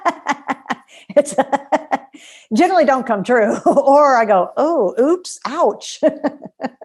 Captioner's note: laughter